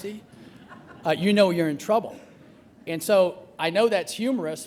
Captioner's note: laughter